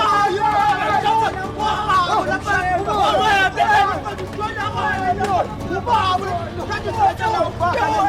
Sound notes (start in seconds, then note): 1.7 shouting continues